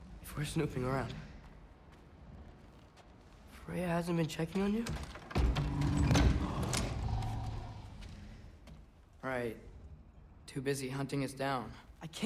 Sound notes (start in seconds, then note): 5.8 grunt